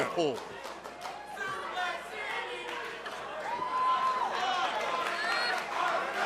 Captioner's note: fans chanting